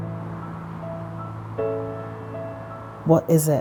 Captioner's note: wind blowing